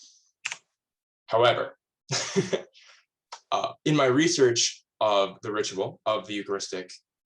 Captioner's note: laughs